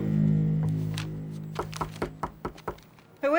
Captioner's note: knocking on door